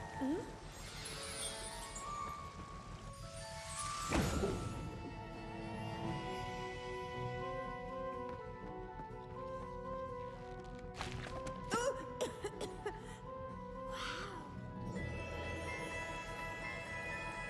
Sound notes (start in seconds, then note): 0.0 sobbing; 12.2 cough